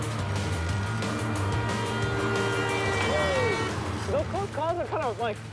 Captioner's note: car horn honking